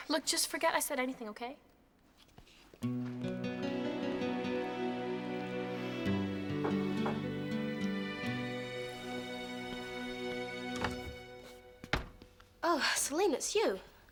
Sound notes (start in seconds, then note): 3.2 soft music; 6.6 knocks